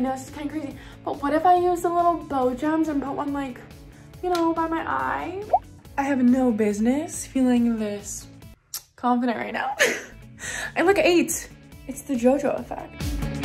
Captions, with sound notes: but what if I use a little bow jams and put one like, you know, by my eye. I have no business feeling this confident right now (giggles) I look eight. It's the Jojo effect.